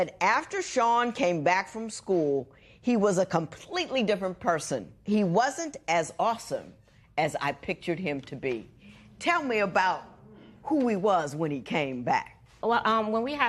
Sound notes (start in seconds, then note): 9.4 spectators murmur